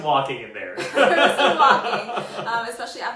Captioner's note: laughs